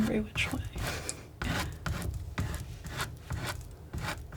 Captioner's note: scratching